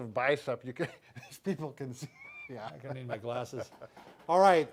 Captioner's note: laughter